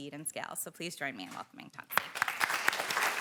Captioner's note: applause